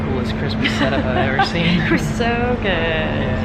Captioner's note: laughs